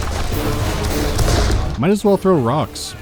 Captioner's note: pow